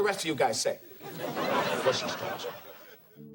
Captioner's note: audience laughing